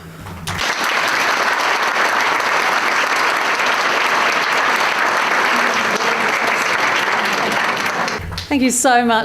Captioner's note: audience applause